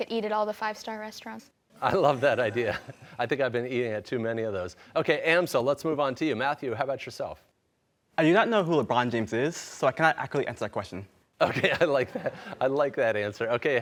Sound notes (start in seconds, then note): 1.9 laughing; 11.4 laughing